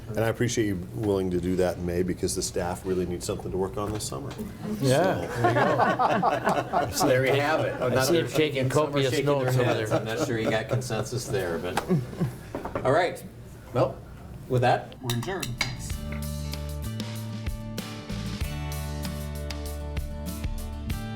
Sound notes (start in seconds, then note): 5.0 laughing; 16.2 upbeat music